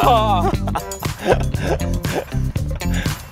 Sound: impersonating

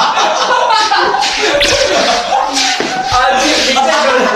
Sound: sweeping

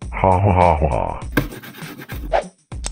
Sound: ʷʳⁱᵗⁱⁿᵍ ˢᵒᵘⁿᵈˢ

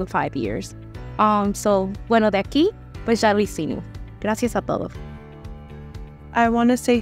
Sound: woman with red hair speaking Spanish

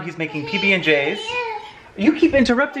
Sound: baby babbling

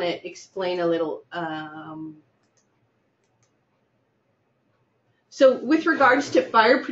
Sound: pause

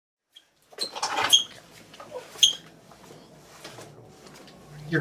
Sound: floor squeaking

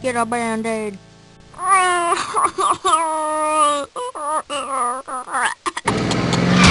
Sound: crying

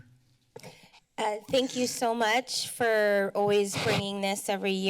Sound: mic noise

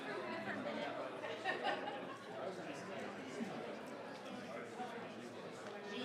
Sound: crowd chattering continues

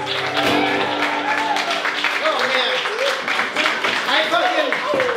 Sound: applause, cheers

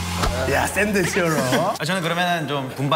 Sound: confident

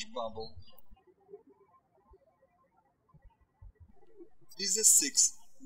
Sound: birds chirping

